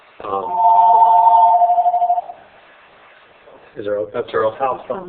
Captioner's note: phone ringing